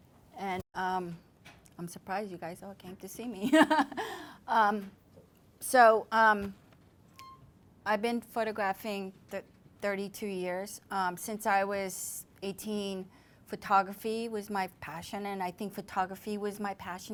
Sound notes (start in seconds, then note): 3.5 laughs